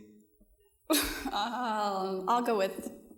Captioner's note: laughs